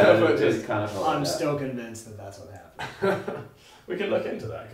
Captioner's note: laughs